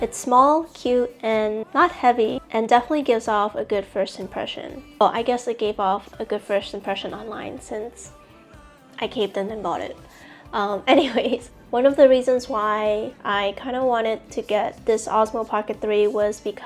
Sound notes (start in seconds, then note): 10.9 giggles